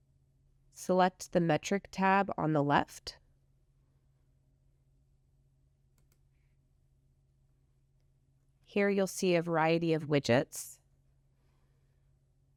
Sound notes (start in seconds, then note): 9.7 silence